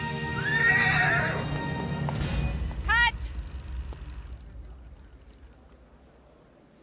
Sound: screaming

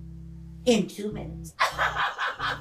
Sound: laughing

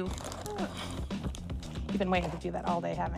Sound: bag rustling

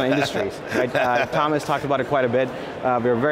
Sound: laughing

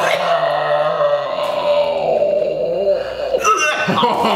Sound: they both gag

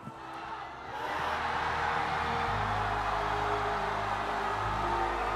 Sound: crowd cheers

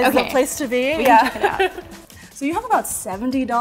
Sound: laughs

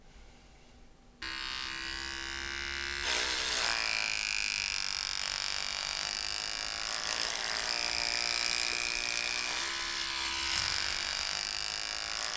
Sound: sound of shaving hair with a hair clipper

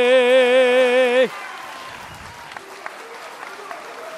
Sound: applause

